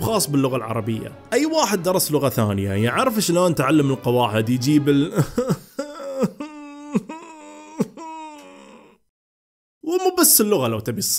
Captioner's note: sobbing